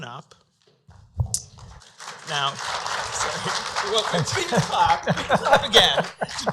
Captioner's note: applause